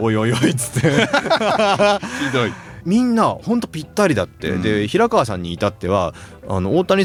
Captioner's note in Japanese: 笑い